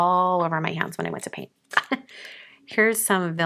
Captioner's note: chuckles